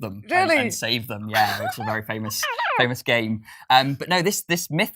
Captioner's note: electronic voice